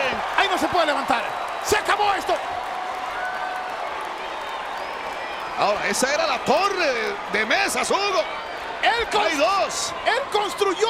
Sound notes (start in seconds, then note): 0.0 applause